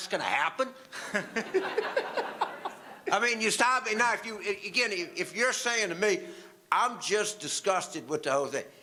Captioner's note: audience laughter